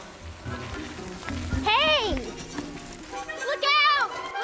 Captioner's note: splash sound